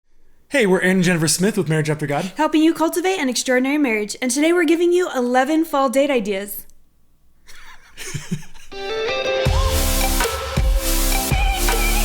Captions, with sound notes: - Hey, we're Aaron and Jennifer Smith with Marriage After God. - Helping you cultivate an extraordinary marriage and today, we're giving you 11 fall date ideas. (laughing) (upbeat music)